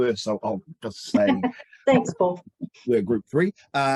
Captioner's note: laughs